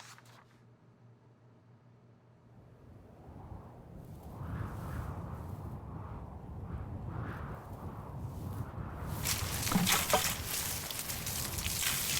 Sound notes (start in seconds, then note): 4.3 wind blowing; 9.2 gasoline pouring